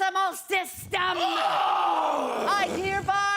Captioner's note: screaming